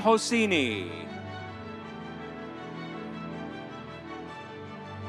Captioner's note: audience cheering